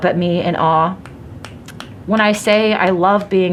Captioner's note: snapping